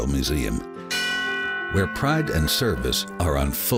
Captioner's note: bell ringing